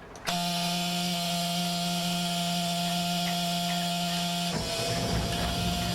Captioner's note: buzzing of boat turning on; engine starting